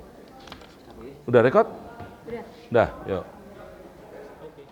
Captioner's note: background Chatter